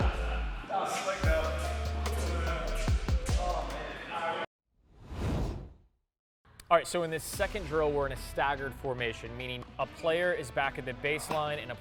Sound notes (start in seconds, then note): 5.0 air swooshes